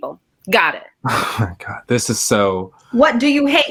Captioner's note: sighs